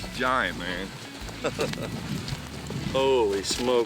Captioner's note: laughter